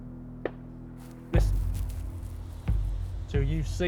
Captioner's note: gunshots pop off in distance